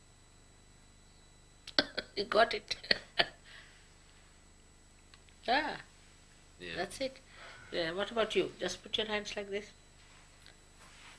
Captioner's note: shri mataji laughs